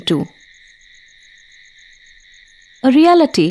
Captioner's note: cricket chirping